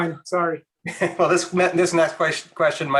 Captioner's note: laughing